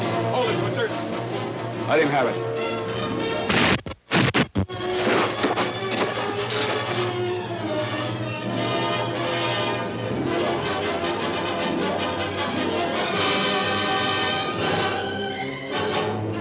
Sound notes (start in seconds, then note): 0.0 ominous music; 3.4 explosion crackles; 3.5 bazooka booms; 4.8 suspenseful music